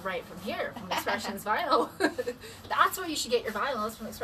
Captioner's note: laughs